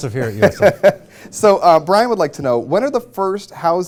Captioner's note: laughter